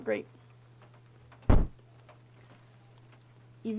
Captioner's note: loud Thud